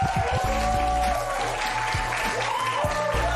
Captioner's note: cheers and applause